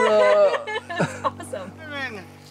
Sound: laughing

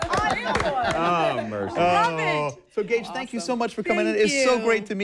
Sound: applause

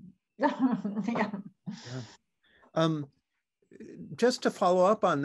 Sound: chuckles

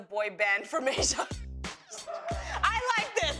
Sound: laughter

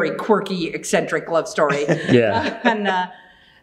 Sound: both laughing

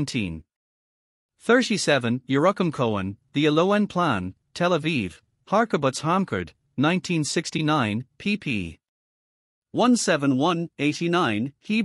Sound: Hebrew

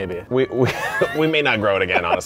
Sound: both laughing

